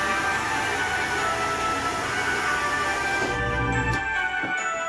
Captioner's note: drill press buzzing